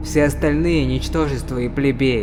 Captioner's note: none